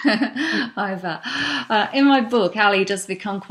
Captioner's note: laughing